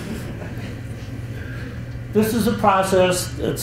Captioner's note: chuckles